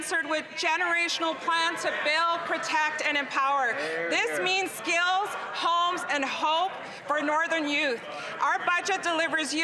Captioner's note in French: voix de l'interprète